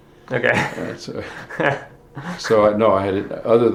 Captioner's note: both chuckle